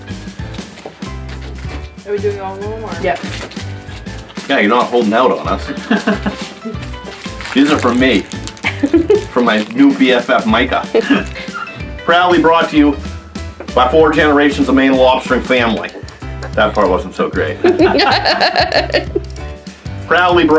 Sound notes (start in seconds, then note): 12.3 new England Accent; 17.6 laughing